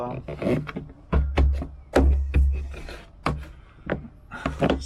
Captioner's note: wood thumping